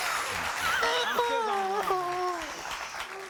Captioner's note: crying